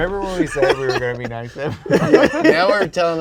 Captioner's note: laughing; both laughing